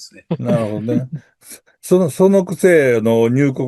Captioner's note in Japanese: 笑い